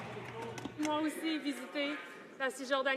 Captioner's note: speaking French